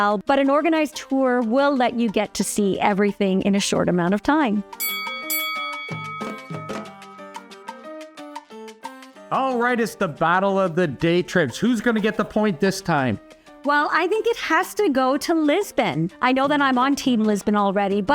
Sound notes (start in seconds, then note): 4.8 bell dings; 4.9 lively music